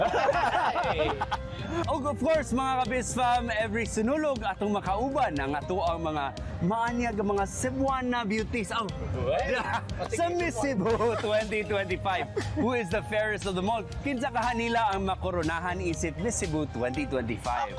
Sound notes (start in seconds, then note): 0.0 laughter; 10.8 laughs